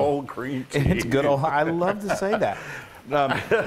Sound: laugh

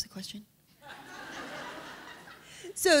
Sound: laughter

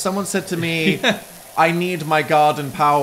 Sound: laughs

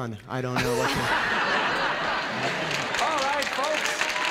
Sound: laughter

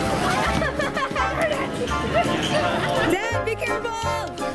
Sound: laughing

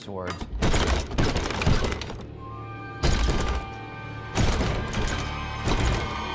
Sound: cabinet doors rattling

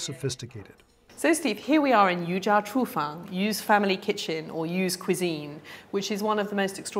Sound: speaking Chinese

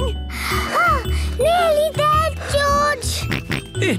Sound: panting; snorts

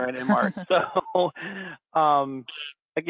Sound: laughing

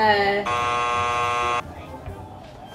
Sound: buzzer buzzing

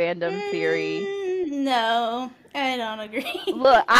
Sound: laughter

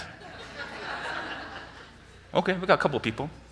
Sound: audience laughing

